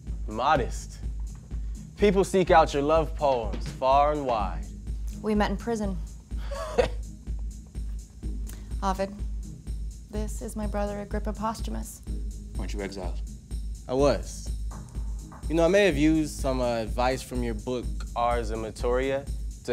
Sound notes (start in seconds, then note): 6.4 laughs